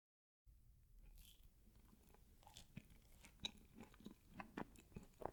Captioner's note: eating ciund